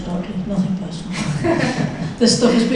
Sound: audience laughs

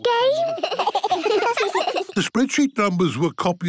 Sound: giggling

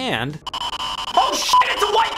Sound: radio static blares

